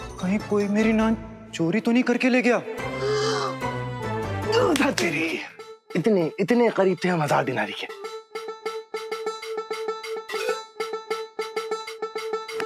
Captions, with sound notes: 'Did someone steal my naan?' [gasping] - Darn it! - Dang! We were this close to getting the 1000 Dinars! [comical music playing]